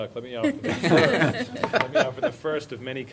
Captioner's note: laughter